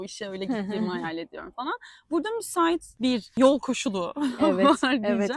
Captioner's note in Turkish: kahkaha